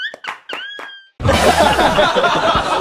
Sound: funny music playing; laughs

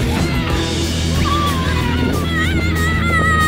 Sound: shouting

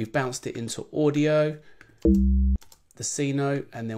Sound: electronic tone

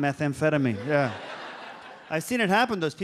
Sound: audience laughs

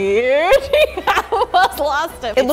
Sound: laughs

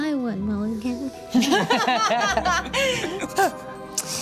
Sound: laughing

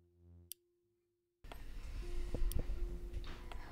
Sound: clock ticking

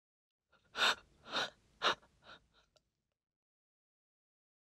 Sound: terrified breathing

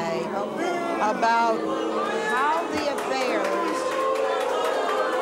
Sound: audience boos; audience hollers

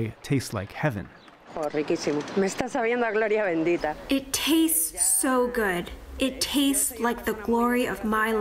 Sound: through translator

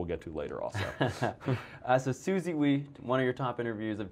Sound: laughs

